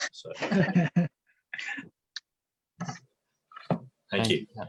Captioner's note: councillors laughing